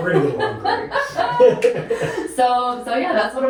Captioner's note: laughing